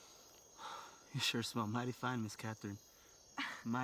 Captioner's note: exhales; Cathryn chuckles